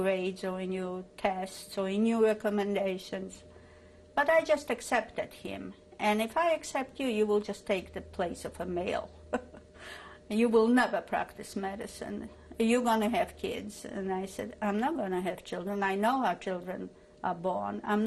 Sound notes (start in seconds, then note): 9.3 laughs